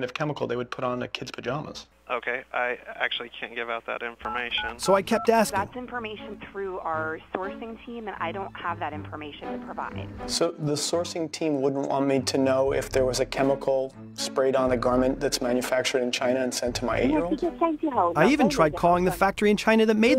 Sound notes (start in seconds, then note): 5.6 female on phone